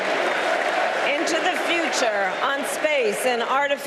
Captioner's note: applause